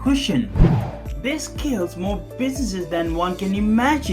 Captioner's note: air swooshing